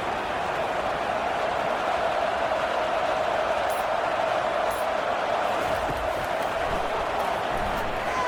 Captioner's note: crowd Noises